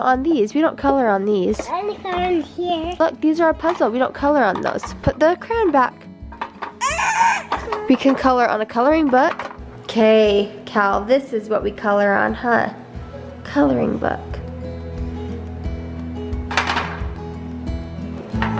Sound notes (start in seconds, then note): 6.9 screams; 15.3 light acoustic music